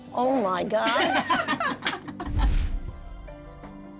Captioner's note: laughter